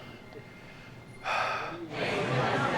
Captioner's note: heavily sighs; people loudly chatting